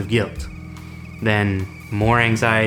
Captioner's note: teakettle starting to screech